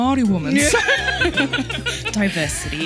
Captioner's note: laughing